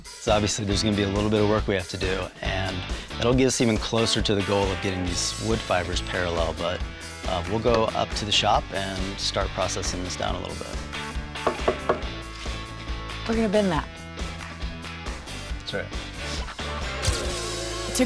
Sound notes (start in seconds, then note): 11.3 knocking on wood